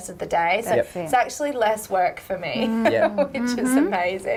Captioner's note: chuckling